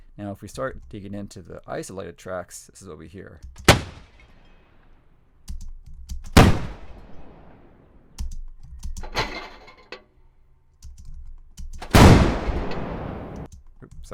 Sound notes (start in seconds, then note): 0.0 mouse clicking; 3.9 multiple gunshots; 9.0 metal clanking; 11.9 gunshot